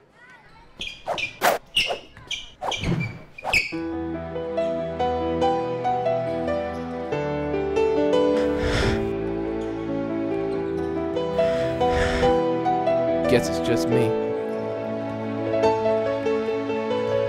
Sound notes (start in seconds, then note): 0.4 sneakers Squeaking; 0.8 whooshing; 8.2 deep Breathing